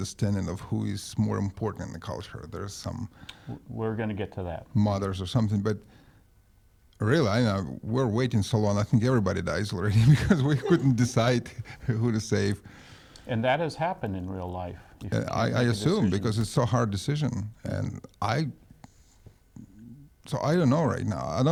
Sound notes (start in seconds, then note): 9.8 laughs